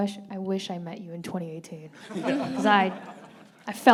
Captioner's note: audience laughing